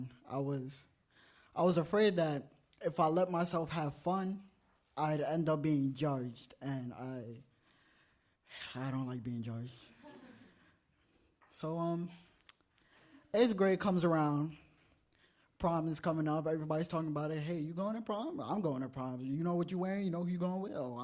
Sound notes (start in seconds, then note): 10.0 audience laughs